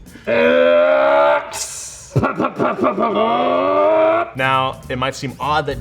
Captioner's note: mimics car engine noises